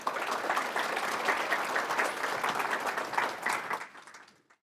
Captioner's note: audience clapping